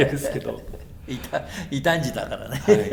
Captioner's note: laughs